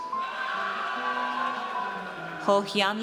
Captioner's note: audience cheers